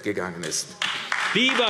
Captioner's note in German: Beifall AfD